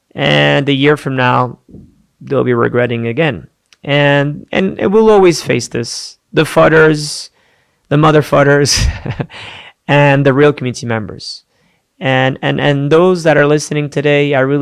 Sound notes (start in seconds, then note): 8.8 laughs